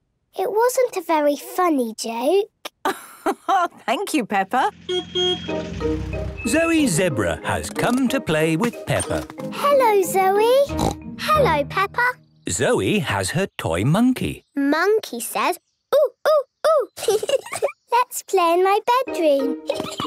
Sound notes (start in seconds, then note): 2.9 laugh; 4.8 honking; 10.7 snort